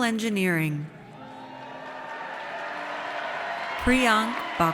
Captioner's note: audience cheers